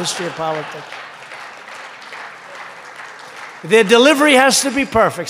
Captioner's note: laughter and applause